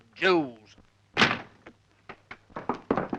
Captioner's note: door slams; hooves pounding